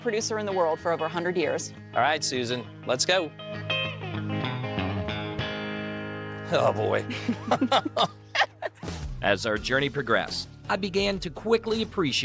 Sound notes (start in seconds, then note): 7.0 laugh